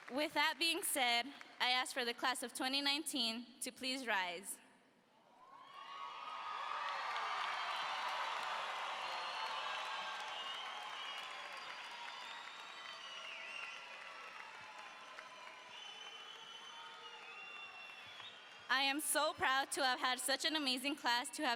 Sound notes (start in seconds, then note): 5.9 audience cheers